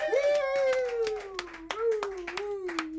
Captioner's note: all clapping